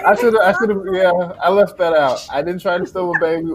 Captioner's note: laughter